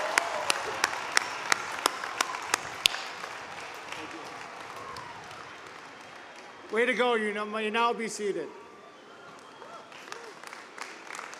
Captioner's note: cheers and applause